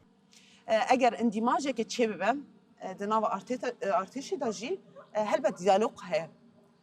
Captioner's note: in Kurdish